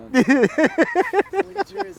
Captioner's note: laughing